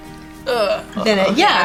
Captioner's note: grunting